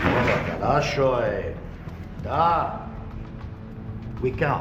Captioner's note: speaking in foreign language